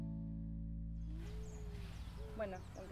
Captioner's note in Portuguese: canção de pássaros